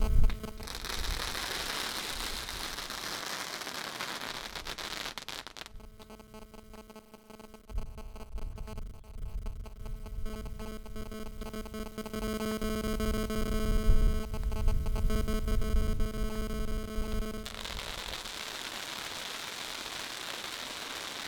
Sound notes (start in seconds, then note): 0.0 fireworks crackling; 12.8 electronic feedback; 18.1 fireworks crackling